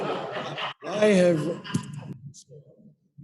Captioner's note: laughter